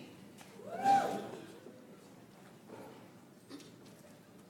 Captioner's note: audience applauds